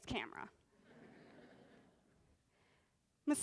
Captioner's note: laughter